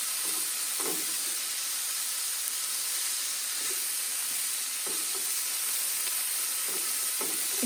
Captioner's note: sizzling